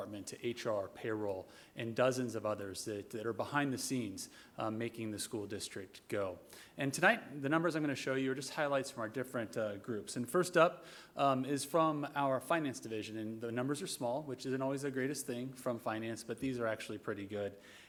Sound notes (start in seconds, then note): none